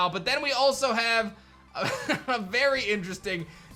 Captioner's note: chuckles